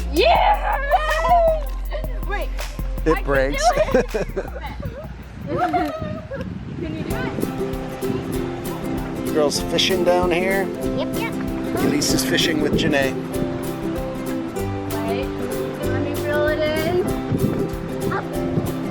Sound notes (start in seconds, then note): 3.5 laughing; 8.2 river rushing; 8.2 upbeat music continues